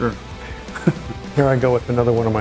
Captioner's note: laughs